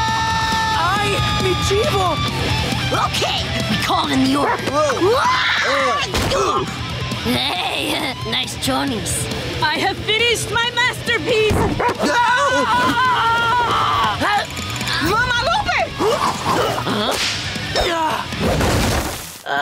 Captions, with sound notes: ¡Ay! ¡Mi chivo! Okay, we called in the order. [groaning] [chuckles] Nice chonies. I have finished my masterpiece. [barking, screaming] Mama Lupe! Huh?